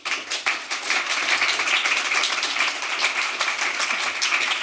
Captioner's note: applause